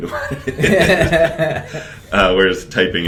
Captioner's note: laughter